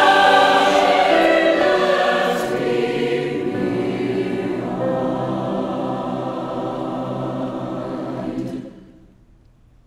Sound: somber

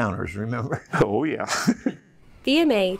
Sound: laughs

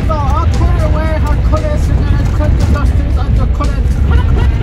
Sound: Navajo gibberish

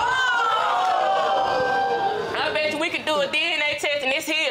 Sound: audience exclaiming

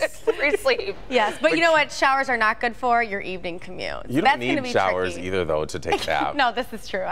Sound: laughter

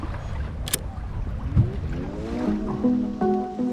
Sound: camera click; gentle synth music; gentle trumpet music

